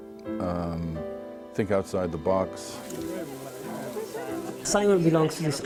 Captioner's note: people chattering